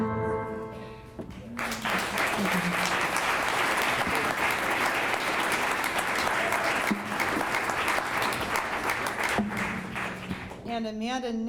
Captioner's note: clapping